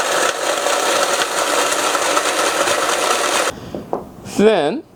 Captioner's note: machine noise